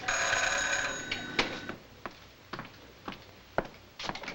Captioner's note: doorbell rings